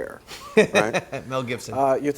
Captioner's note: laughs